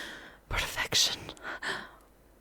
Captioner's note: gasping softly